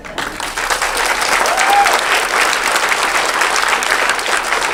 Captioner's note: audience clapping